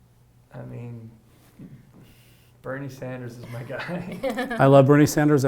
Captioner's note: chuckles